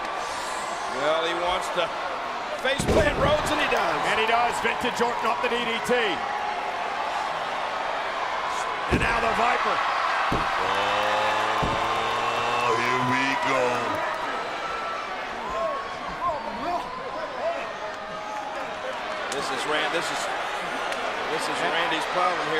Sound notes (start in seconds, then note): 10.2 crowd cheers